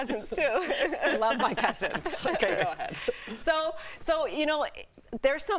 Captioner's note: laughter